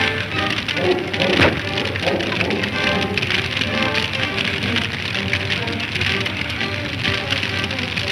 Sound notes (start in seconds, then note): 0.0 wolves barking